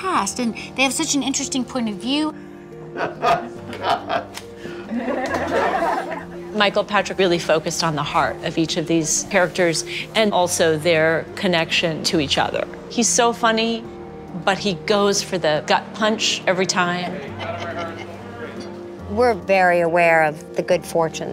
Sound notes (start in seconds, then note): 2.8 chuckling